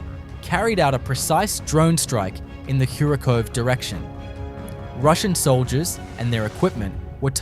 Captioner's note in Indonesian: drone